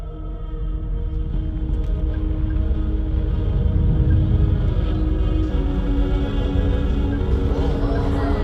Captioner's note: low rumble